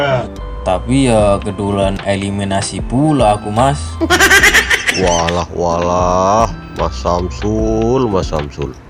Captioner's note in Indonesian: tertawa